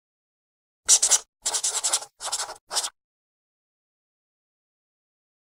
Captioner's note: pencil scratching